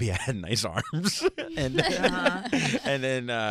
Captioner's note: laughing